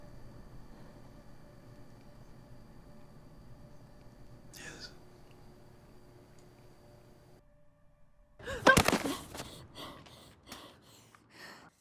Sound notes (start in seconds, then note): 8.5 yelps; 8.6 thud